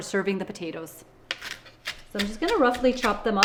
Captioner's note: herbs crunching